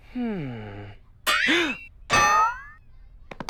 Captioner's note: gasps